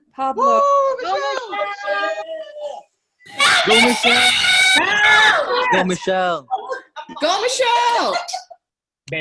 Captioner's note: cheering